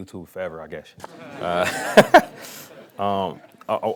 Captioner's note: laughing